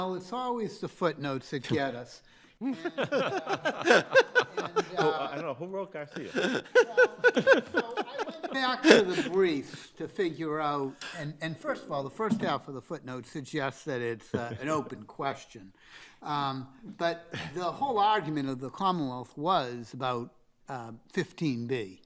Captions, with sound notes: - Well, it's always the footnotes that get us. (all laughing) - I dunno, who wrote Garcia? (all laughing) - So, I went back to the briefs to figure out, and first of all, the first half of the footnotes suggests that it's an open question. But the whole argument of the Commonwealth was about 15-B.